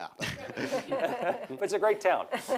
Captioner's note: audience laughs